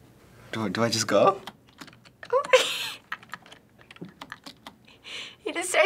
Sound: keys clacking; chuckling

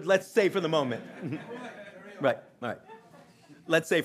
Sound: audience laughing

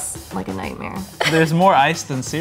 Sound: laughs

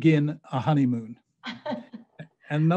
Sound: laughing

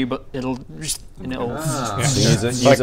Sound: zrrst

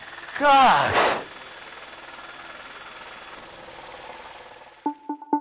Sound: helicopter engine whirring; suspenseful music

